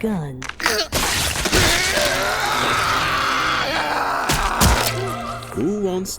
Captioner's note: screams of shock